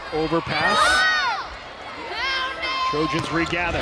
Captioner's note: players yelling